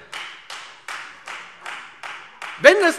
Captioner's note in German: Beifall Freie Demokraten